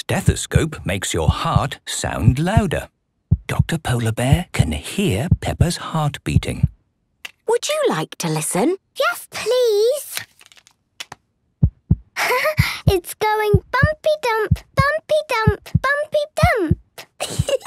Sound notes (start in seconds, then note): 11.6 heart beating